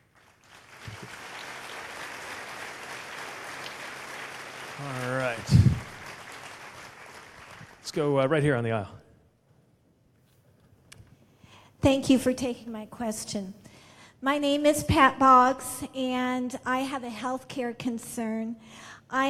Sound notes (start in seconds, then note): 3.8 applause